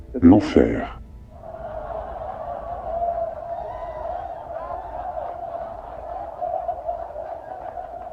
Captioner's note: the audience erupts into laughter